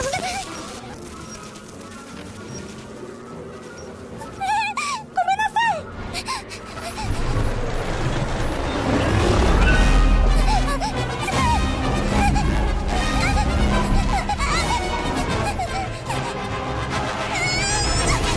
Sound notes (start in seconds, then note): 3.6 whimpers; 6.2 panting; 8.4 Kaufmo roars; 8.4 yelps; 10.1 shouting, panting; 12.3 dramatic music plays